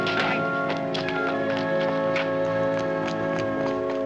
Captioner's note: dramatic music; Gwen screams